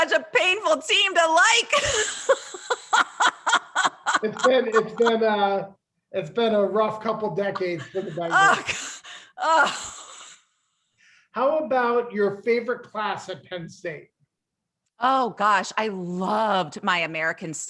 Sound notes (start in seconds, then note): 7.5 laughter